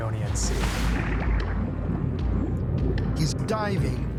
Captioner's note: water bubbling